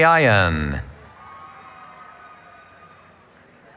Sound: cheering

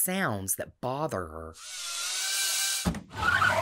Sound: machine whirring; car tires screeching

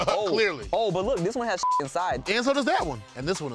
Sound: beep

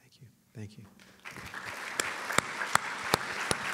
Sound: applause

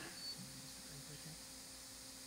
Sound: machine beeps

